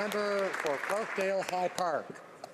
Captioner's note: some Applause